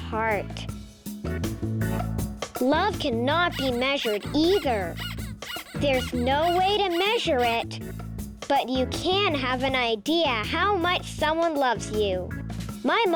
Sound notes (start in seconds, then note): 5.1 squeaking